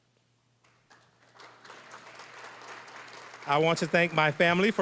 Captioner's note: applause